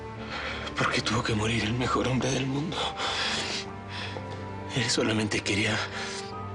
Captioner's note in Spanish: Solloza